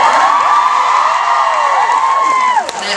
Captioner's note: audience cheering